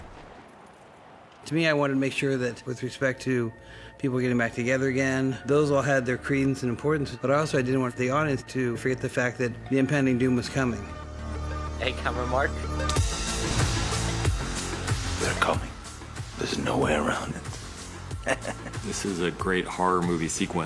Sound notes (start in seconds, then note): 13.4 upbeat music plays; 18.0 chuckles